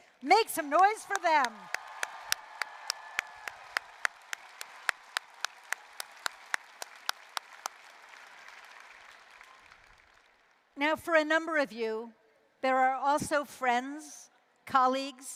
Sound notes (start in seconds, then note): 2.2 applause, cheering